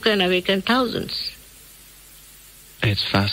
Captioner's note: silence